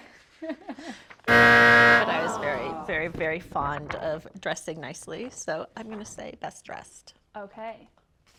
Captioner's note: buzzer